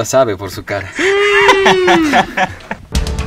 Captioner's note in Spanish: risas; grito de Cristiano.mp3